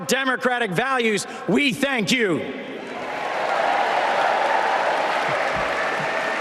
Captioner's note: applause